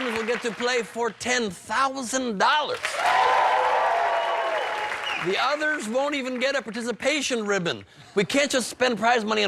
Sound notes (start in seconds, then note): 4.8 cheers and applause